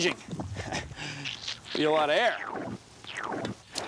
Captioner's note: chuckles